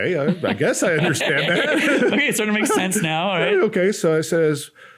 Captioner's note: both laugh